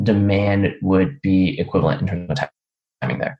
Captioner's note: speaker audio becomes choppy